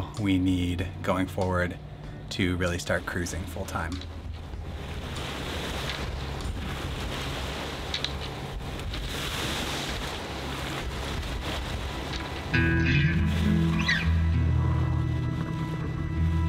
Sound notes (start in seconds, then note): 7.9 water splashing; 12.3 gentle music